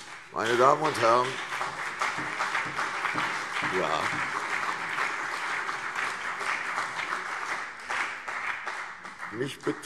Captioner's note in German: Beifall CDU und BÜNDNIS 90/DIE GRÜNEN